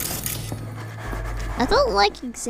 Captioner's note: rattling ghostly breathing